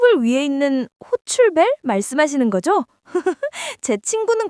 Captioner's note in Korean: 웃음